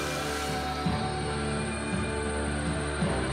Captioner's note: cicadas